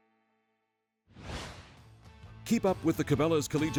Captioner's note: voiceover